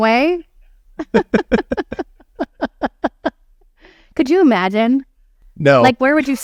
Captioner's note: laughing